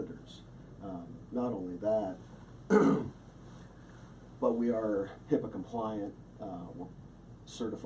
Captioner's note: clears throat